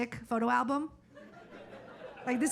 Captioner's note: audience laughing